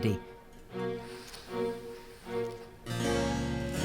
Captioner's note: feather scratching on paper